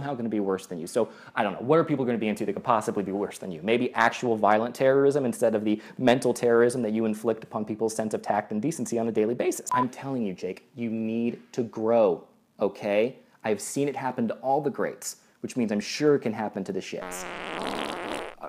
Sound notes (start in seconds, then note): 17.0 Jake Paul farts